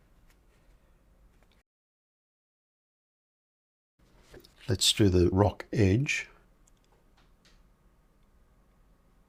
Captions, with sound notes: [silence] Let's do the rock edge.